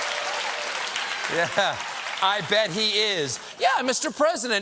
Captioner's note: laughter; applause